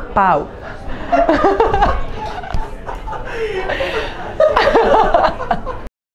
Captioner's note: laughs